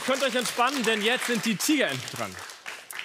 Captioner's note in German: Applaus